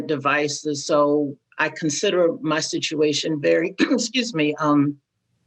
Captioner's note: coughs